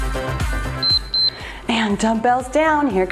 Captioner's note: timer beeps